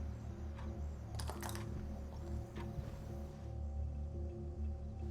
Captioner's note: object clatters